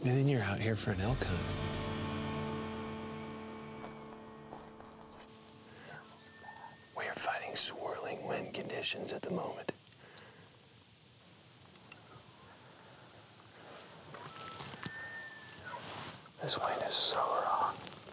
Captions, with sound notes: and then you're out here for an elk hunt. We are fighting swirling wind conditions at the moment. (elk bugling) This wind is so wrong.